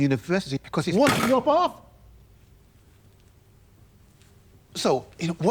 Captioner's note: James smacking table